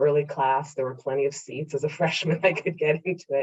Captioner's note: laughs